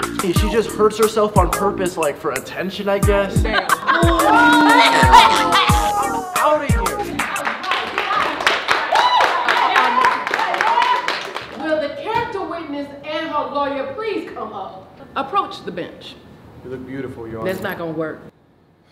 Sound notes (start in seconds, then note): 3.3 jury & glozell laughing; 7.0 everyone clapping and cheering